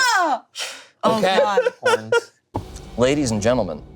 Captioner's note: laughing